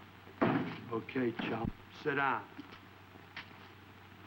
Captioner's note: chair thudding